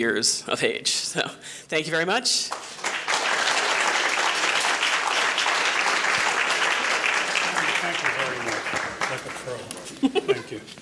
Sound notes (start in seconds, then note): 2.4 applause